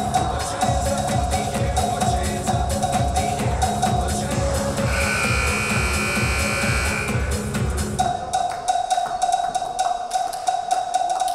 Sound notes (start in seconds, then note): 4.8 buzzer buzzing